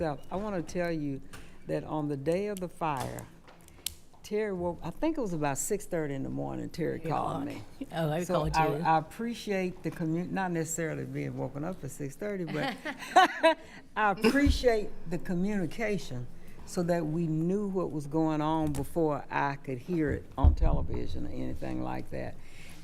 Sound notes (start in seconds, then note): 12.6 laughing